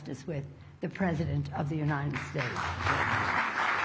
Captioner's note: applause